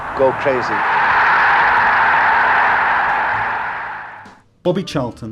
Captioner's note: crowd roaring